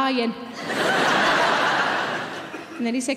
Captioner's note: audience laughing